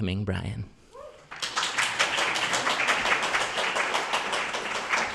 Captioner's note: applause